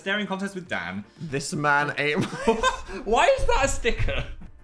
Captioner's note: laughs